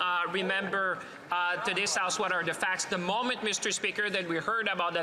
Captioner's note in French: voix de l'interprète